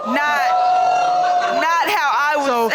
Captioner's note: audience shouting